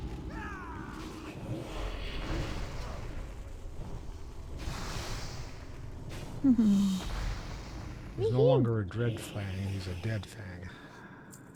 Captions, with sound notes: [sighs] There's no longer a dread flag, he's a dead fag.